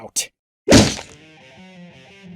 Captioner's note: smack